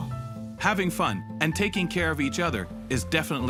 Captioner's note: voiceover